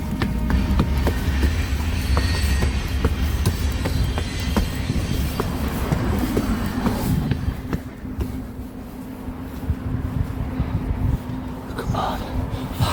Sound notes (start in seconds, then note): 0.6 trains passing